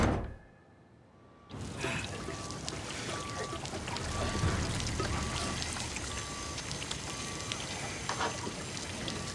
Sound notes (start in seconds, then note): 1.5 water pattering